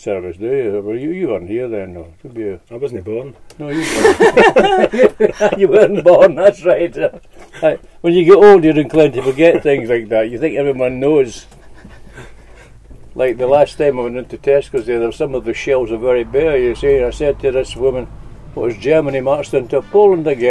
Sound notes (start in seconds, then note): 3.7 laughter